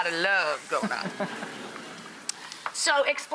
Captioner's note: laughing